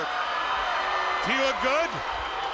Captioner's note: crowd roaring